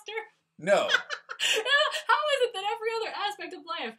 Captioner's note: laugh